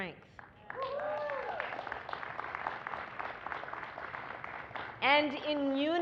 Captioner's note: applause